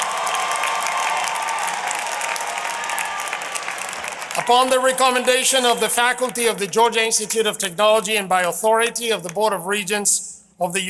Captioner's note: applause